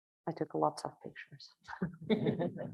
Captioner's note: everyone chuckling